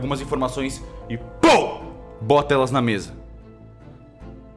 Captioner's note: pow